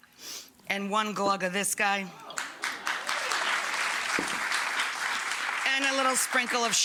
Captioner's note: audience clapping